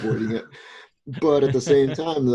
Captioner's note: laughter